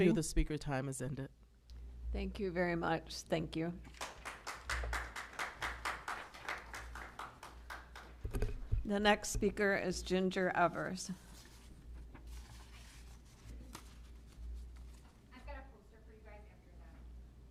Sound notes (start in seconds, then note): 3.9 applause